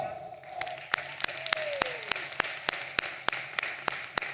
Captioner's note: audience applauding